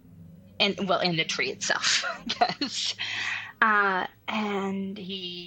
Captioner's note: laughs